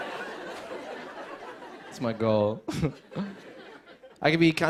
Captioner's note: laughter; chuckles